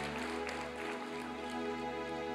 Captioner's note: applause and cheering